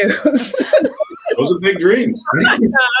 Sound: laughs

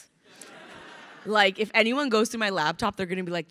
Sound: crowd laughing

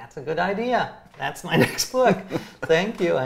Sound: laughs

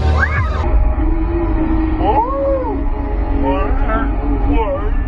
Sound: slow motion noises

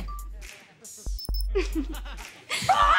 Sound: chuckles

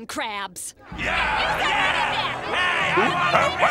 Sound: yelling

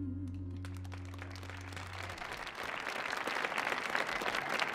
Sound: audience clapping

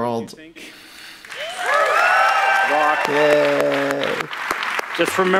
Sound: audience applauds

